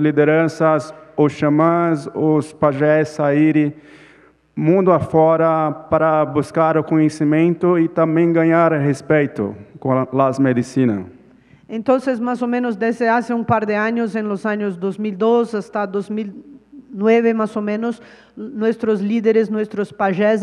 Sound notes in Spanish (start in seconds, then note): 0.0 Ponente habla en portugués